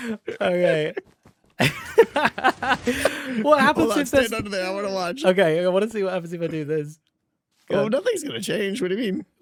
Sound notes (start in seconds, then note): 1.6 laughs